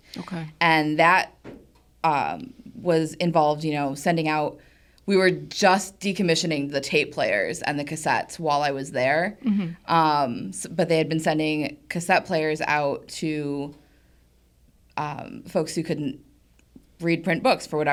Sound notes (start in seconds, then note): none